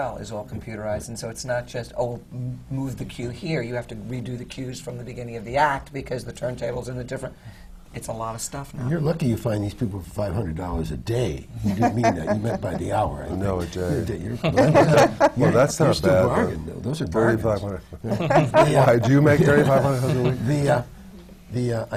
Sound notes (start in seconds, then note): 11.6 laughs